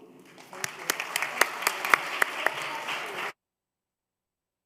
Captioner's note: applause